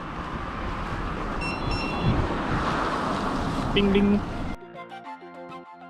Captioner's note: GARMIN chimes